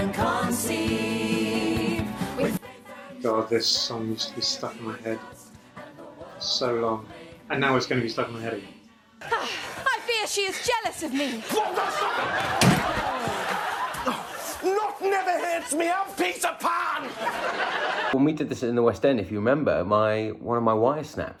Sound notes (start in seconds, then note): 11.5 shouts